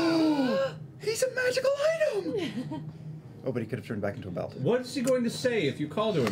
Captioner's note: gasps